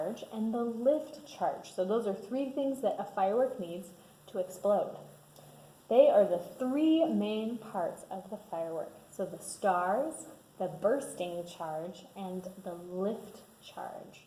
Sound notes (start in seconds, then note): none